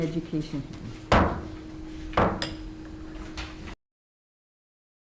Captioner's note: gavel banging